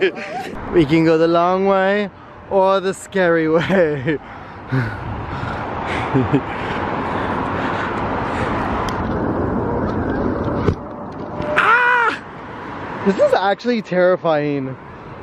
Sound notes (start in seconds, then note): 11.2 makes a scared sound